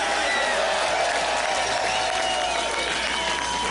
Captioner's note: applause